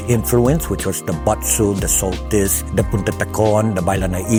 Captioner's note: in native chamoru